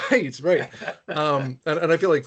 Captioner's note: laughing